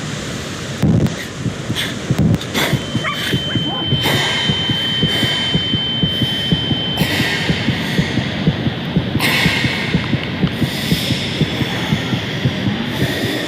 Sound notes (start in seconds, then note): 1.0 heart beating faster; 2.3 ears ringing; 3.0 dog barking; 10.1 heart beating fast